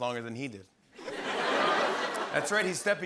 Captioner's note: laughter